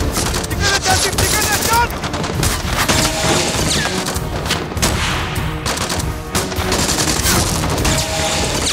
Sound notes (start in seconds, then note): 2.4 gunfire continues